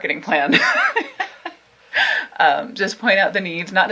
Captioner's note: both laughing